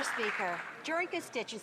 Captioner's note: some Applause